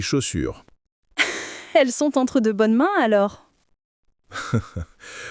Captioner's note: laughs